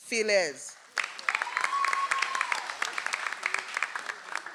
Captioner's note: audience applauds